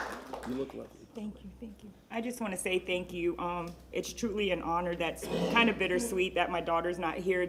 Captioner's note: applause